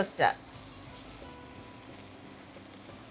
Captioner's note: sizzling